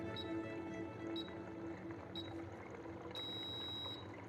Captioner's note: machine beeping